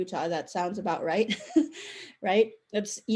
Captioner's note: chuckle